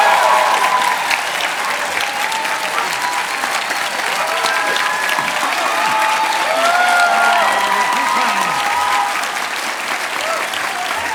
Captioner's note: cheers and applauese